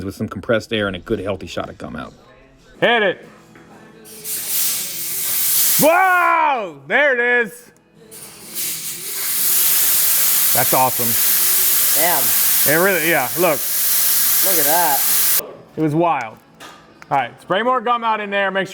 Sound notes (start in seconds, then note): 4.1 Gumout hissing; 8.1 cleaner hissing